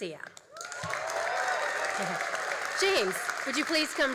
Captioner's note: all applauding and cheering